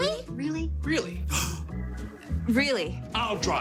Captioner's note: gasp